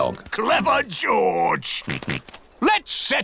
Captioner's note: snorts